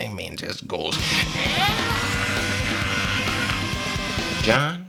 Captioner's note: Tom from Tom and Jerry scream